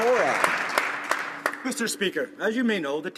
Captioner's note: some Applause